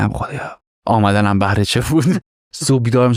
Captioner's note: laughs